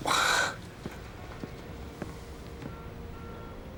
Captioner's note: sighs